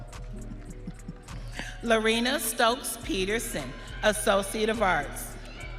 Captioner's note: audience cheering